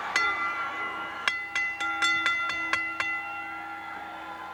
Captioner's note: bell rings